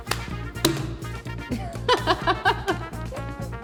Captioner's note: snarky FBI chuckling